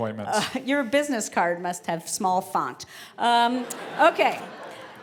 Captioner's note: laugh